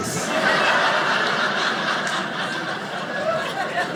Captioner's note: audience laughing